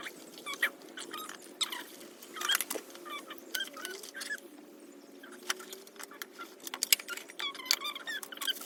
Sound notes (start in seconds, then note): 0.7 squeaky, high-pitched noises of speaking in sped-up mode